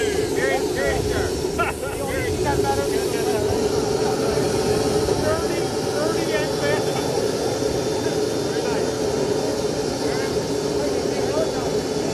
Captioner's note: laughter